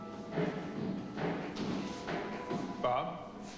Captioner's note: footsteps